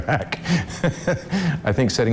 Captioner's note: laughs